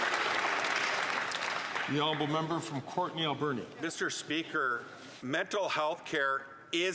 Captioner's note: some Applause